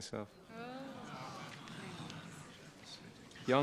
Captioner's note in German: Gemurmel